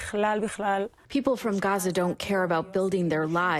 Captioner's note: through translator